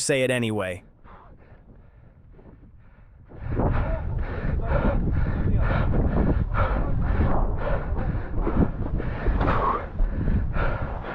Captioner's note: panting and sighs